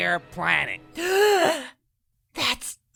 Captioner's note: gasp